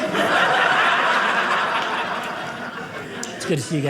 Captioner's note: audience laughing